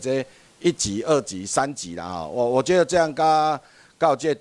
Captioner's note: minnan dialect